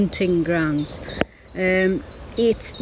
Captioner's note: birds chirping